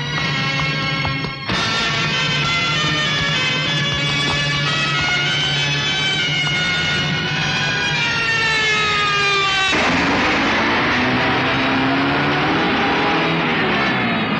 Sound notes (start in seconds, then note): 7.8 cop Siren